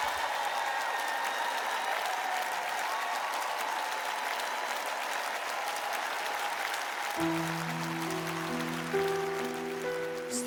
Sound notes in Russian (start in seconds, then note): 2.0 аплодисменты; 2.0 ликование; 6.4 аплодисменты